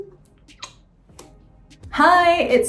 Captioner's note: lip smacking